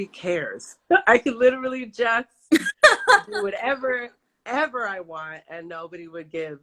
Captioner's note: laughs